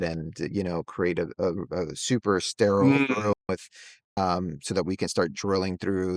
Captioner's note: hums